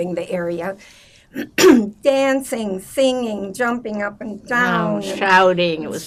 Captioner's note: clears throat